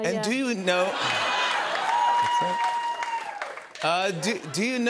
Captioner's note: laughter, cheers